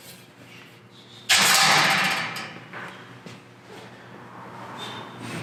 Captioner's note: metal clangs